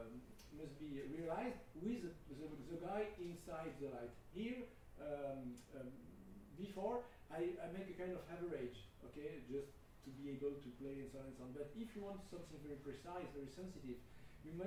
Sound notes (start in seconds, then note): none